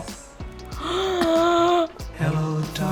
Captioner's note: gasps